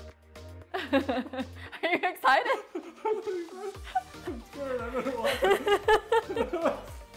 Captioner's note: laughter